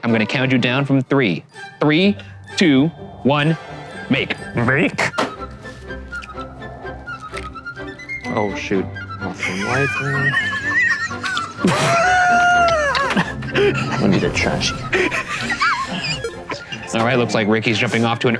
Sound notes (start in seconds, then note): 4.9 classical music; 9.4 all laugh